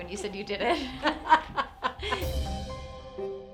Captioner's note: laughs